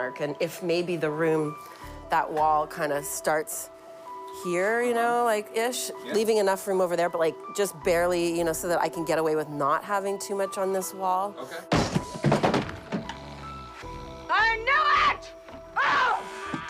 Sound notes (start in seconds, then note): 11.7 crashing